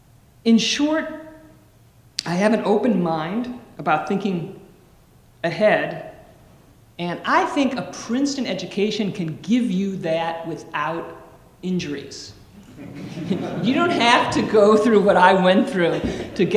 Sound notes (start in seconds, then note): 12.6 audience laughing